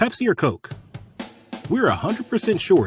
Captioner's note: sound of commercial